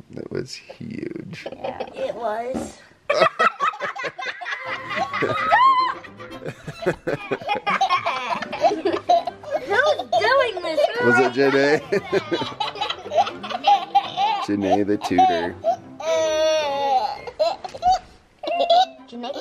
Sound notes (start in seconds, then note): 3.1 laughter; 12.8 giggles; 18.4 giggles